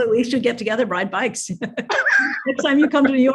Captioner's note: laughing